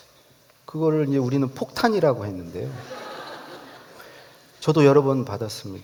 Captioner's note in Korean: 웃음